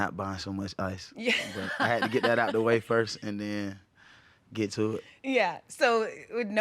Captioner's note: laughing